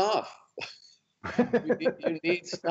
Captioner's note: laughter